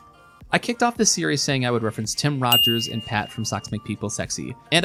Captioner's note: ding